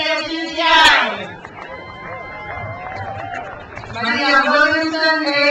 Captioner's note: crowd cheers